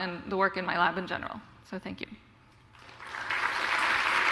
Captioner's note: applause